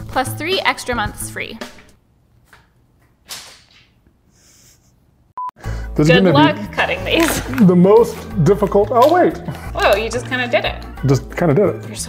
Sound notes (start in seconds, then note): 3.3 money crinkling